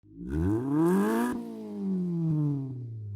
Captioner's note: engine revs